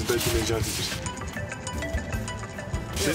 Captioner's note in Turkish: Telefon çalıyor